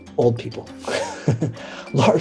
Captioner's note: laughs